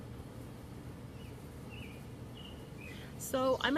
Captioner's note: birds chirping